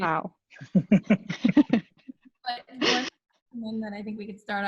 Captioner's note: laughing